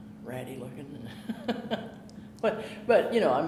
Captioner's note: chuckling